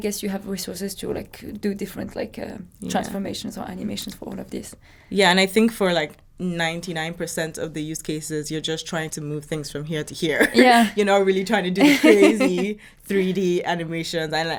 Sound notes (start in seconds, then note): 11.8 laughing